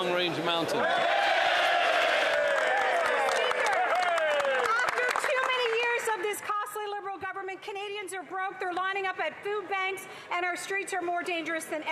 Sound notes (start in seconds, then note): 6.4 cheering and Applause